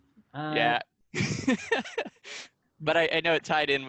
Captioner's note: laughing